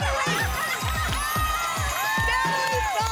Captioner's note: applause and cheering